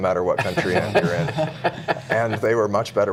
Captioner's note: laughter